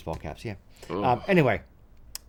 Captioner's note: sound of pure disgust